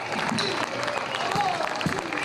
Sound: applause

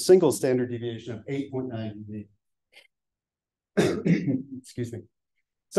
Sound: coughs

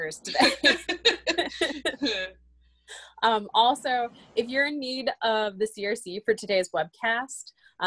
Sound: laughter

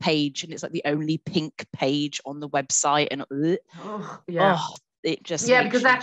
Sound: gags

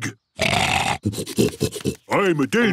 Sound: snorting

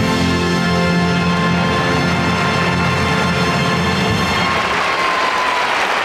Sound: audience applauding

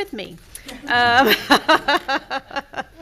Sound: laughing; people laughing

